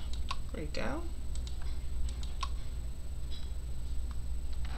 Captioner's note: mouse clicking